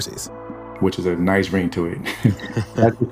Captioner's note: both laugh